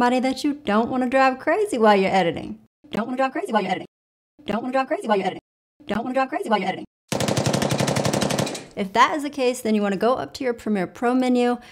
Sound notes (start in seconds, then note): 7.1 gunshots